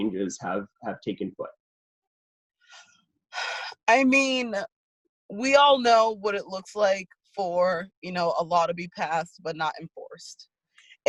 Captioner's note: sighs